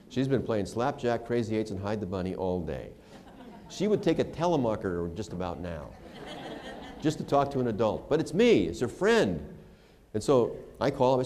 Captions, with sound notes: She's been playing slap-jack, crazy eights, and hid the bunny all day. She would take a telemarketer just about now [laughter]. Just to talk to an adult. But it's me, it's her friend. And so I call.